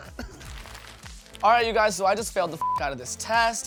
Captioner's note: beep